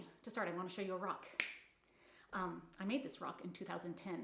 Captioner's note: fingers snapping